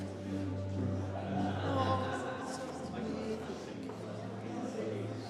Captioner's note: people chattering